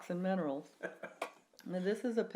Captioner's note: laughs